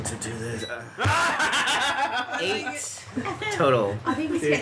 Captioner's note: laughter